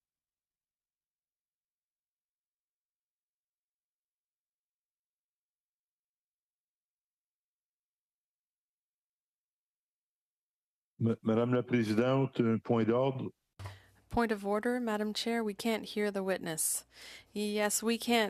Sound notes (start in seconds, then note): 4.2 no audio